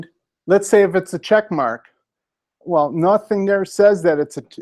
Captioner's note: none